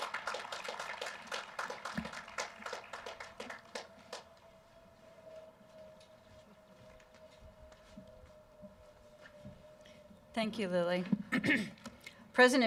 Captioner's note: cheering; applause